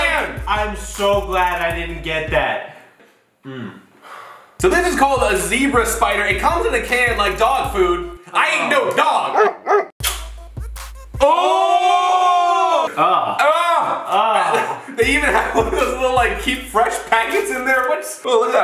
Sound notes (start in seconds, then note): 9.3 dog barking